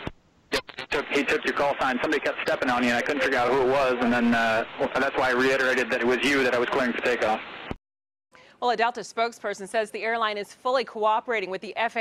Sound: tape played

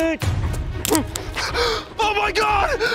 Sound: scissors snipping; dramatic music; baguette crunches; gasps

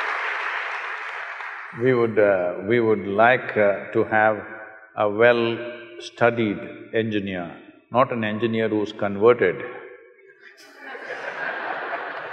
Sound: applause; laughter

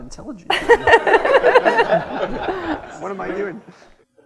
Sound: laughter

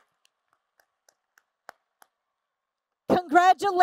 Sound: applause

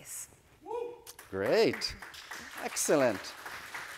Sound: audience applauding

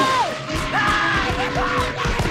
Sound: screaming

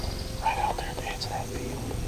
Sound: whispering

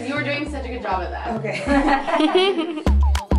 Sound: laughter

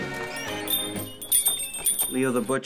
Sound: upbeat music; bell rings

